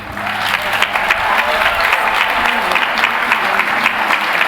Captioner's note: applause